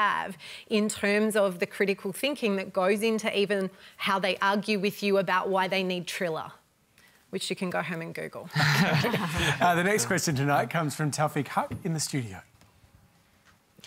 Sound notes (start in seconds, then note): 8.5 laughter